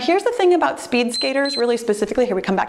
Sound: timer beeps

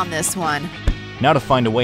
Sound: feet thuds

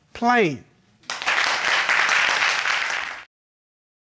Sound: audience applauds

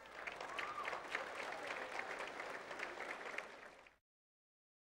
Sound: audience applauding

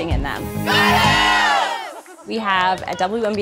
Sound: cheering

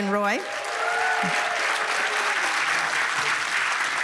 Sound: cheers and applause

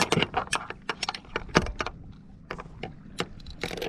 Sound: clattering metal

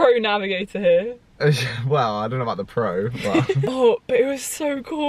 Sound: chuckles

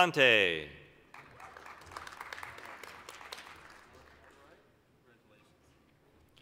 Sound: applause

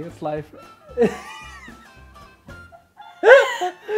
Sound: laughing

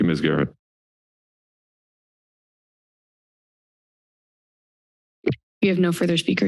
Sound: silence

